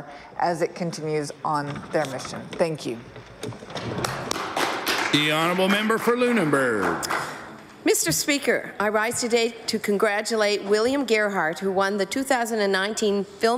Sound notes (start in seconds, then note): 8.3 applause